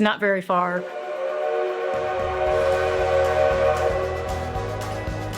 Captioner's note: train whistle howling